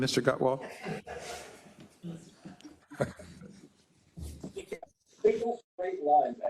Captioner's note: laugh